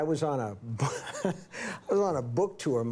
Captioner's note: Steve chuckles